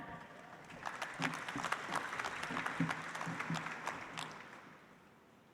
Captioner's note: audience applauds